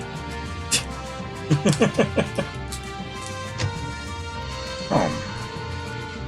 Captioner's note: laughs